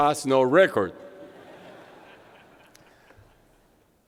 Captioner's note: laughter